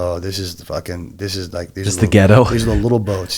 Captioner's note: chuckles